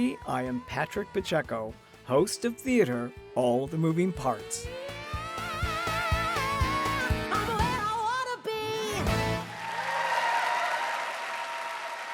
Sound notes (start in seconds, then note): 9.0 cheers and applause